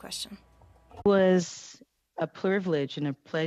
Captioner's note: speaking French